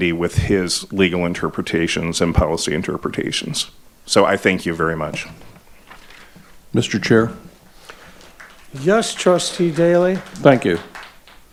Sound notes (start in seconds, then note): 7.9 audience applauding